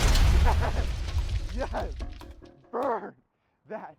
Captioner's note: bomb banging